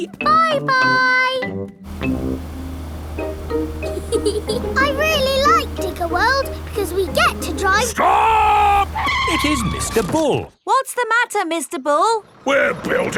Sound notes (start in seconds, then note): 3.8 george chuckling; 9.6 tires screeching